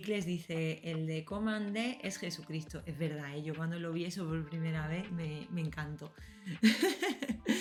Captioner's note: laughs